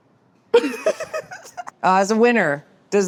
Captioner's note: laughing